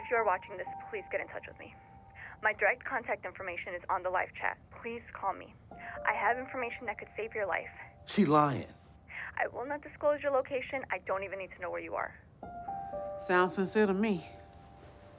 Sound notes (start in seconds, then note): none